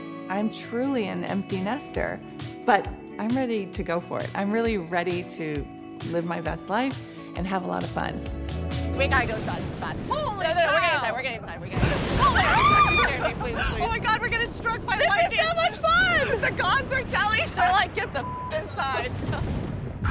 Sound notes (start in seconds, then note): 12.0 women screaming; 12.1 thunder rumbles